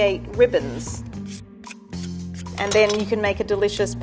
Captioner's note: peeler scraping over zucchini